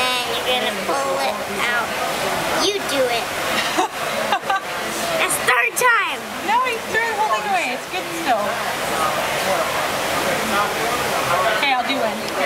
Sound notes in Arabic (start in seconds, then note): 4.2 يضحك; 9.0 الضوضاء الخلفية مطعم